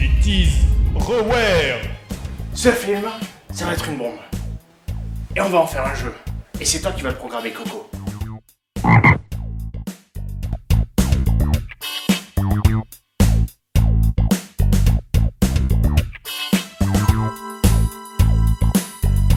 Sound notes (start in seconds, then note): 8.8 croaking